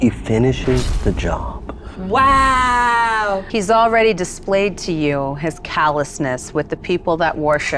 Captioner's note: none